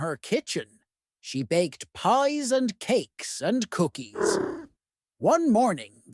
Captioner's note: kitten purrs